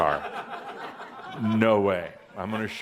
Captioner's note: some chuckles